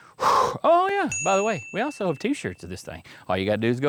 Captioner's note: exhaling; ding